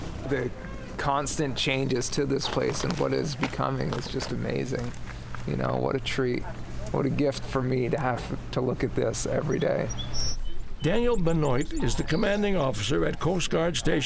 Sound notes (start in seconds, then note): 9.9 birdsong